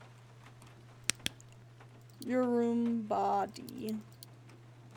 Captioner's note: flashlight Clicks Off